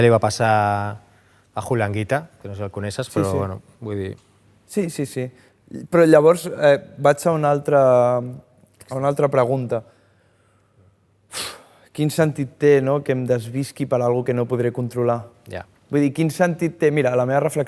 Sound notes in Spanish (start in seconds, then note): 11.4 suspira